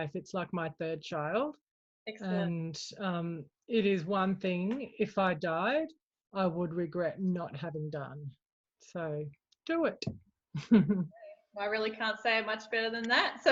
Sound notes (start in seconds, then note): 10.6 chuckles